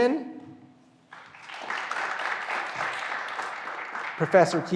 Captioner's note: graduands applauding